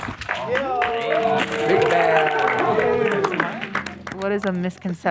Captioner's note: everyone cheering